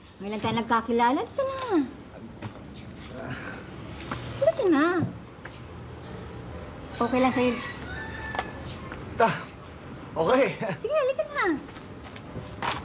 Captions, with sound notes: You're being too shy. Come on over. Ah... Come on. Is it okay for you? Ah... Okay. [chuckles] All right, come on.